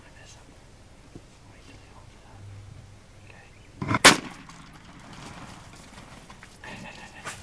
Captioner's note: gun shot